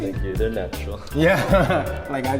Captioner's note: chuckling